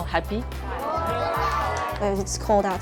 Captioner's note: diners cheering